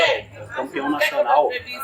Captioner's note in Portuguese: barulho da plateia se dispersando ao fundo